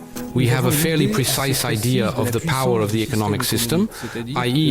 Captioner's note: French spoken audio